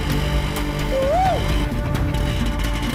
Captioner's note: Signalling